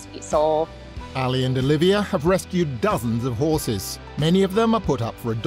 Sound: voiceover

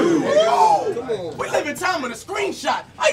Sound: audience hoots

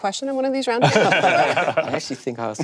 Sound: panel laughing

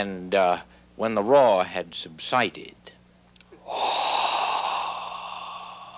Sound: blowing

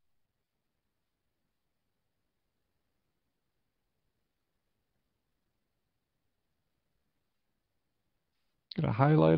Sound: silence

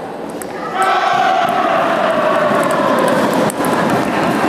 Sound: applause

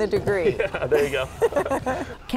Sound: both laughing

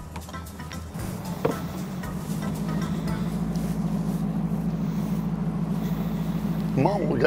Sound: engines revving

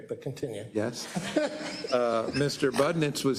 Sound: laugh

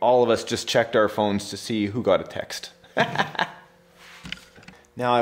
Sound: laughs

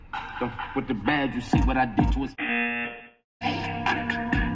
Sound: buzzer

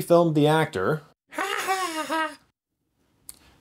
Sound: Owl laughing

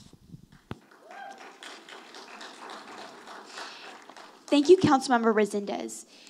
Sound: audience applauding

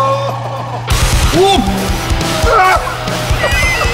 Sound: cries out

